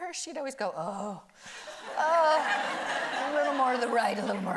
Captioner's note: audience laughing